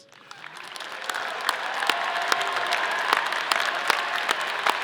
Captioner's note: audience cheering